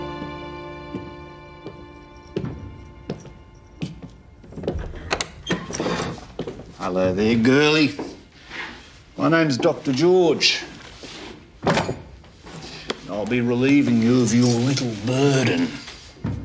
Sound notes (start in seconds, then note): 0.1 footsteps approach; 4.5 door opens